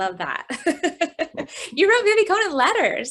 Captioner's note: laughs